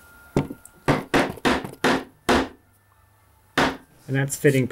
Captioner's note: hammer bangs